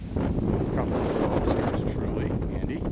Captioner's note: wind blowing